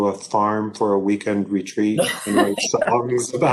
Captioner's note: laughs